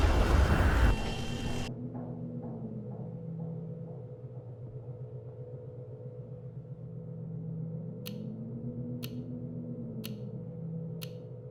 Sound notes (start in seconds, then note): 0.2 horn honking; 7.9 clock ticking